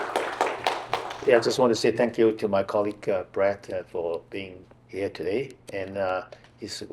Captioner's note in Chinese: 掌聲